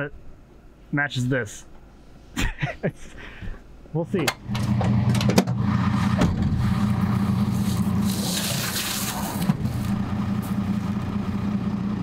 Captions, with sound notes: that matches this. (laughs) We'll see. (truck bed banging)